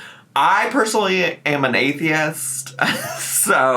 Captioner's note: laughs